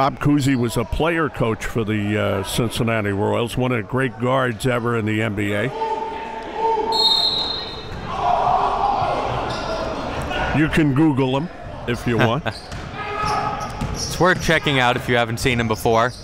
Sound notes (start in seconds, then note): 6.9 whistle blows; 7.8 cheering